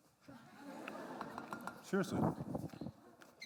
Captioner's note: laughter